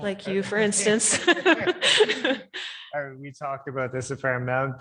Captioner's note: laughing